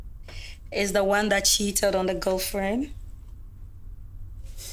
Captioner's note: none